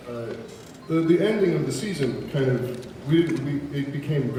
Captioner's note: none